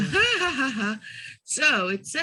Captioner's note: laughing